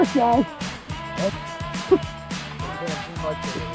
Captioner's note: laughs